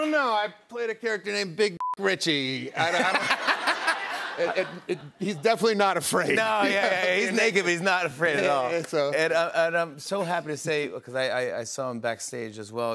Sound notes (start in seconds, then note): 2.7 laughter